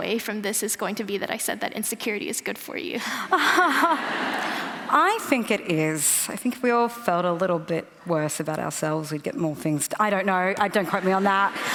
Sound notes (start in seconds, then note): 3.3 laughter